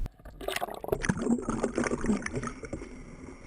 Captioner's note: water gurgling